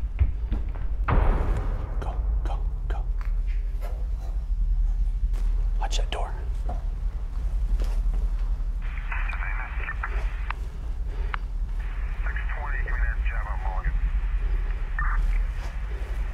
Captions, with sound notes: (loud footsteps echo) Go, go, go. Watch that door. (police radio chatter)